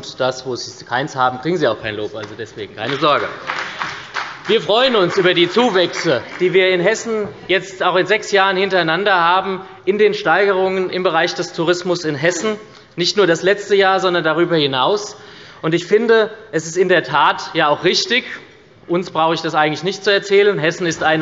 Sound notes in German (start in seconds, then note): 4.4 Beifall bei der SPD